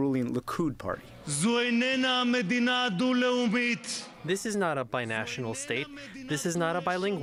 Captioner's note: through translator